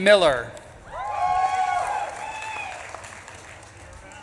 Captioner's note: audience claps and cheers